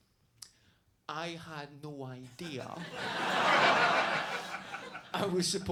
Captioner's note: audience laughs